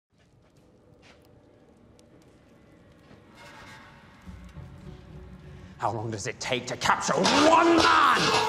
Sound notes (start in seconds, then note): 0.2 fire craccrackles